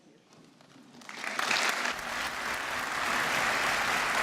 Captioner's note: applause